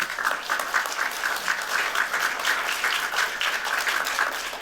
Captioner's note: applause